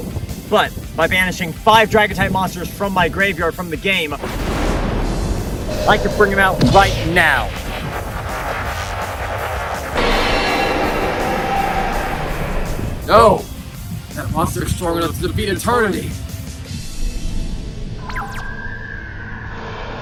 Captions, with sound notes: But, by banishing five dragon-type monsters from my graveyard from the game, (THUNDER) I can bring him out right now! (DRAGONS ROARING) No! That monster is strong enough to defeat Eternity!